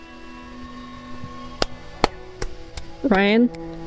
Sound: clapping

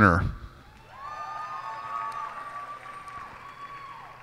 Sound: cheers and applause

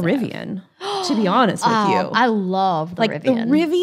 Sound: gasps

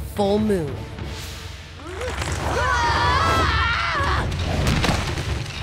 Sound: screaming

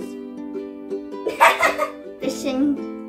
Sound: laughing in the background

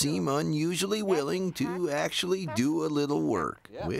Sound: laughs

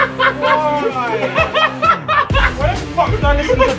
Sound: laughing

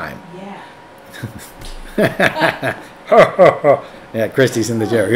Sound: laughing

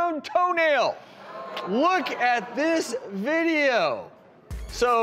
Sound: audience ohs

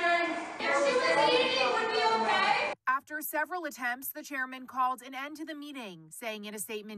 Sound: yelling

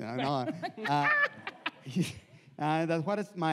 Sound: laughs

